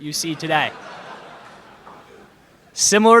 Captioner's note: laughter in crowd